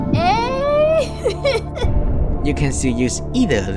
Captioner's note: laugh